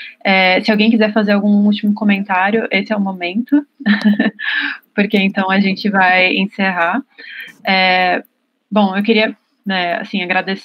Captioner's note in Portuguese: risos